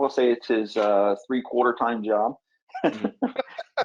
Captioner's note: laughs